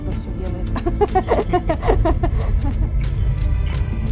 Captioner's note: laughs